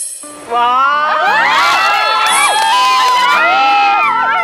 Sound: screams

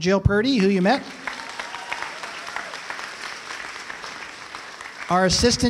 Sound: applause

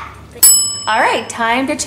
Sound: bell rings

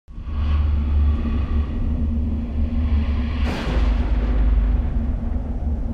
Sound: thunder rumbling; ominous music

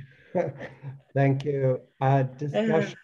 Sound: laughs

